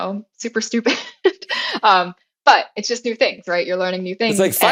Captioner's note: laugh